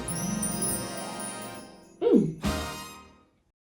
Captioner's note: chimes tinkle; trumpet blast